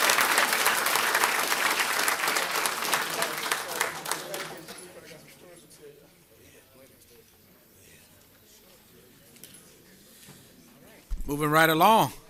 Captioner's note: applause